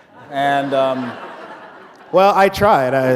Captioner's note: laughter